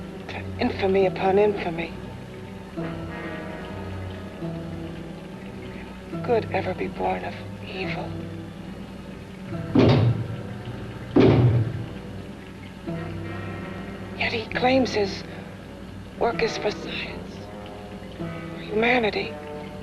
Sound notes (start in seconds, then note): 11.1 knocks twice